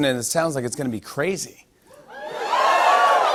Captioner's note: audience "Whoos"